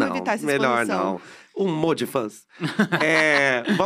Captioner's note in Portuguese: risos